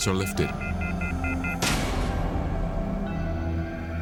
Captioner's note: disconnect tone; ominous musical sting